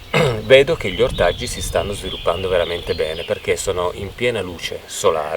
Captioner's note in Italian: schiarire la voce